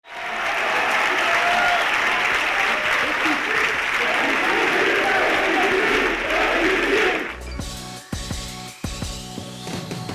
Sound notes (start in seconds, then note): 0.0 applause; 6.0 upbeat music